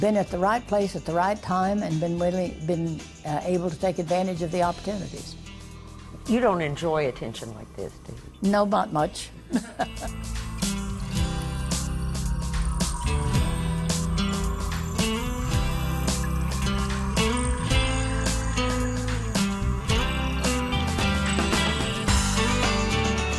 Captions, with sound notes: BEEN AT THE RIGHT PLACE AT THE RIGHT TIME AND BEEN ABLE TO TAKE ADVANTAGE OF THE OPPORTUNITIES. >> YOU DON'T ENJOY ATTENTION LIKE THIS. >> NO, NOT MUCH. [LAUGHTER]